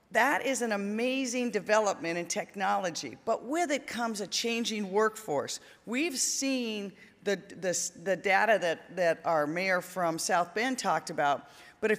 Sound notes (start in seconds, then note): none